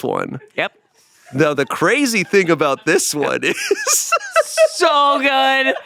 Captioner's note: laughs